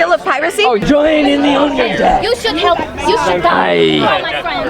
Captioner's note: people chattering